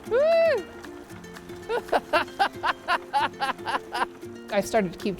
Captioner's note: laughs